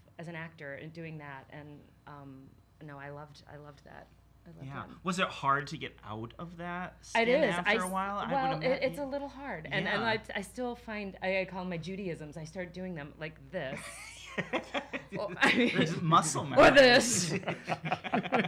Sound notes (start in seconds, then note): 13.8 all laughing